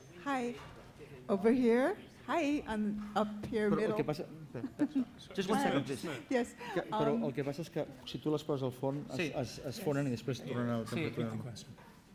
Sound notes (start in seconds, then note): 7.2 non-english speech